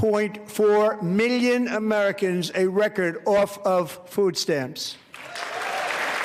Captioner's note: applause